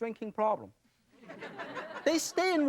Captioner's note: audience laughing